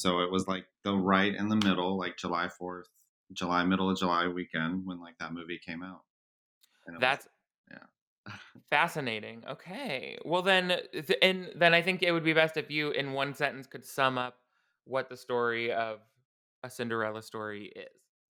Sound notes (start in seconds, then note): none